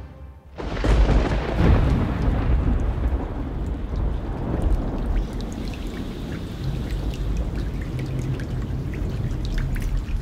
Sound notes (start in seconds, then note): 0.8 thunder rumbling; 5.2 rain dripping